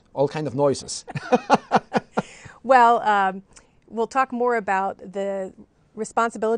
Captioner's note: laughter